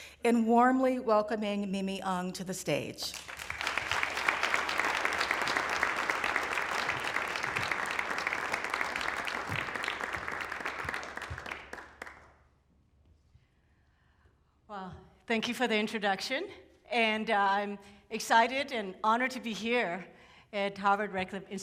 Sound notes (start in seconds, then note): 3.4 applause